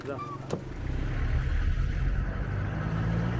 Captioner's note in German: Motorengeräusche